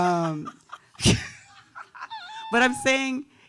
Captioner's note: laughing